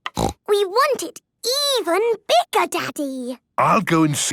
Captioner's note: snorting